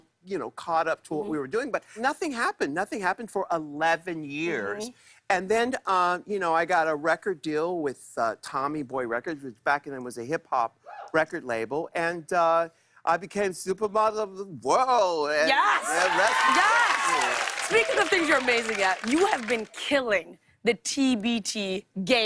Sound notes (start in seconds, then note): 15.5 cheers and applause